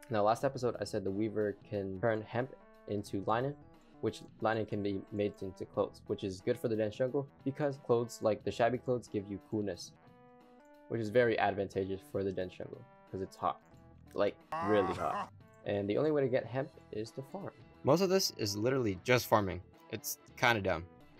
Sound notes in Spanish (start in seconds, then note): 14.5 Will Smith se ríe